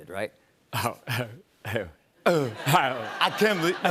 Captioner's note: chuckles